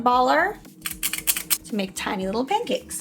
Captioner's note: metal clicking